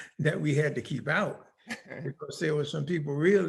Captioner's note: laughing